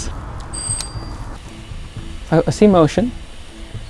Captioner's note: doorbell ringing